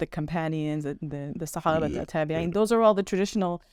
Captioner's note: speaking Arabic